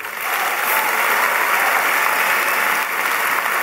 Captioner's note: applause